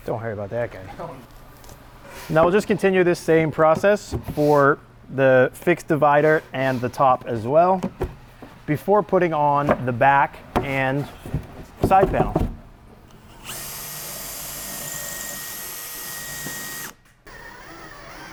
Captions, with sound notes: - Don't worry about that guy. Now, we'll just continue this same process for the fixed divider and the top as well before putting on the back and side panel. (drill whirs)